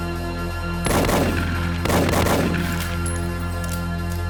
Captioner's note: suspenseful music; gunshots blasting